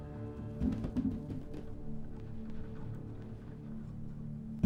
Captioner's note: light clattering